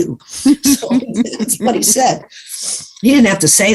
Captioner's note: giggles